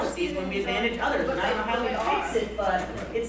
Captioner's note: chattering